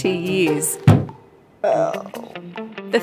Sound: judith groans

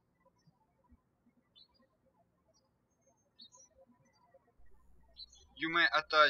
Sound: birds chirping

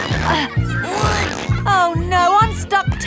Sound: grunting

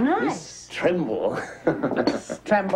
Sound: laughs

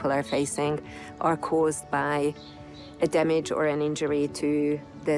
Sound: none

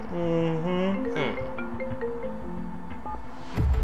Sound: phone rings

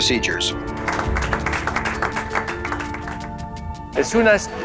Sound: applause

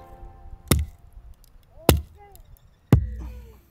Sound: wood banging

